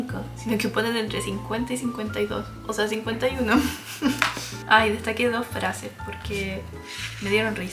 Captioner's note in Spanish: risas